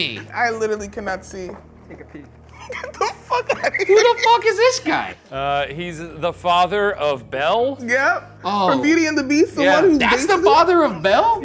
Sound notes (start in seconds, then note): 2.5 laughs